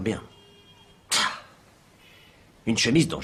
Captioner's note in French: Soupir exaspéré